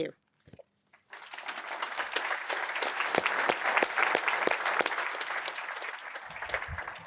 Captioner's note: applause